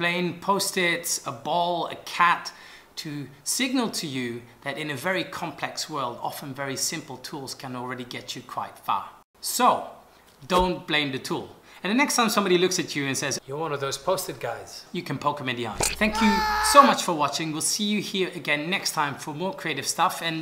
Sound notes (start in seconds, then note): 15.7 yells